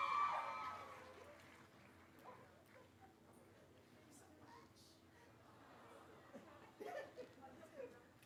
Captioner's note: cheering; laughter